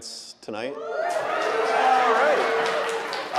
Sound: audience cheering; audience applauding

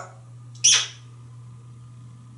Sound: kissing sound

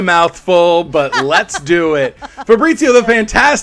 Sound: laughing

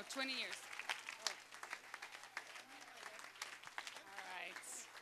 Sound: applause

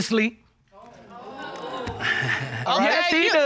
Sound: chuckles nervously

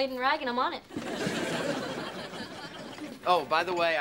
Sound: audience laughing

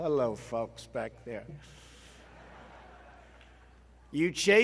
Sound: laughter

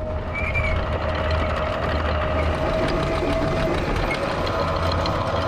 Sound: anchor whirring

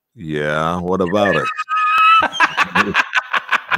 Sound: laughing

